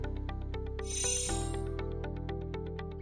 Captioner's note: chiming